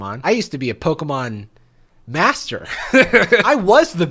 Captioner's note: laughs